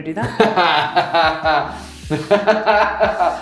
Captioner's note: laughing